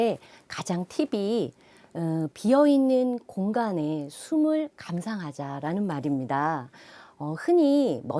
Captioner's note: breath